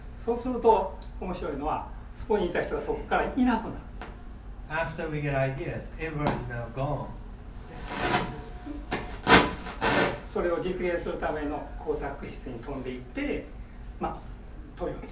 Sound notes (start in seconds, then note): 0.3 speaking in foreign language; 6.3 tapping; 7.5 crackling; 10.3 speaking in foreign language